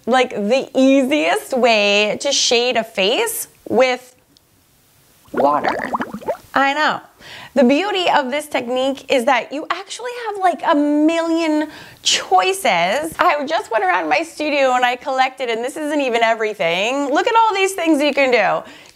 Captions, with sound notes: like the easiest way to shade a face with. (water gurgles loudly) Water. I know. The beauty of this technique is that you actually have like a million choices. I just went around my studio and I collected and this isn't even everything. Look at all these things you can do.